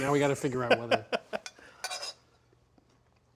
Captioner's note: laughs